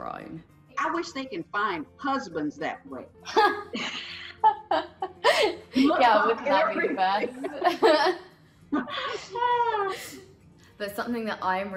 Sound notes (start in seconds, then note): 3.3 laughing